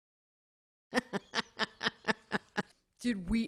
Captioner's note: laughter